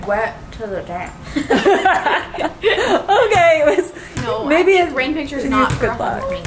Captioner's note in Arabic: يضحك